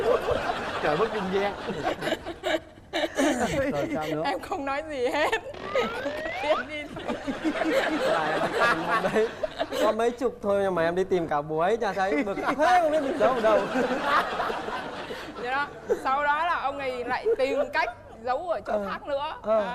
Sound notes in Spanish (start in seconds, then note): 7.3 risa